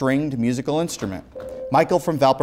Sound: beeping

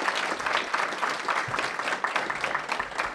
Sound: applause

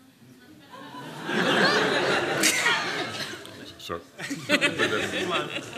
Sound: laughter

